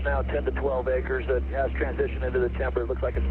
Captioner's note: aircraft